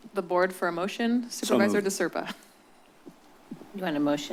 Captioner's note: chuckles